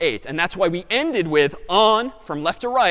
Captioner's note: none